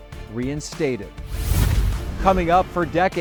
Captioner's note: scene swooshing